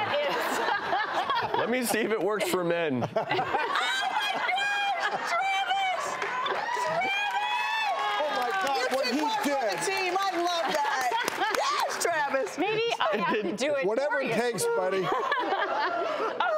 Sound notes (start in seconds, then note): 0.0 laughing; 3.1 laughing; 7.6 applauding